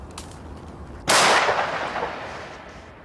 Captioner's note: bang